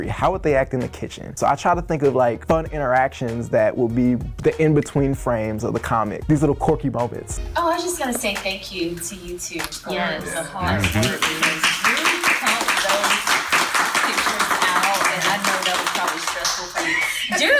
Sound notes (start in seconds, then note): 10.6 group clapping